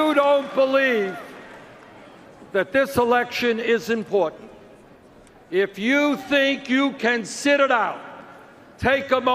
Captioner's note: cheers and Applause